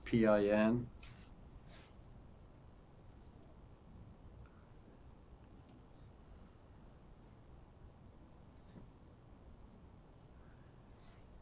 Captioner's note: pauses 10 seconds